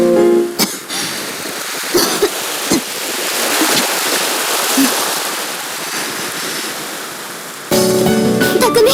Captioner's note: coughing; breathing